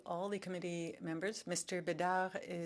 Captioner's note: speaking French